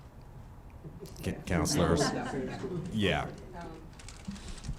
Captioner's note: laughing